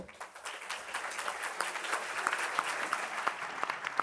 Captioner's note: audience applauds